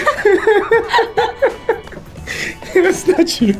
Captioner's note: both laugh